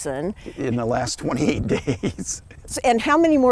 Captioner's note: laughs